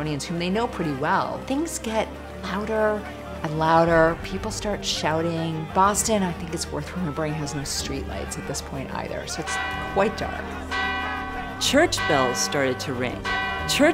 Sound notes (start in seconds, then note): 9.4 bell rings; 9.4 crowd yells